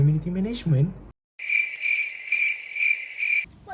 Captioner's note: crickets